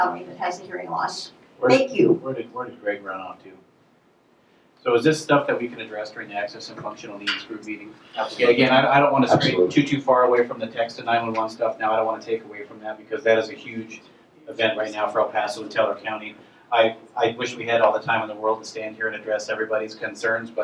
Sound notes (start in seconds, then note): 9.1 voiceover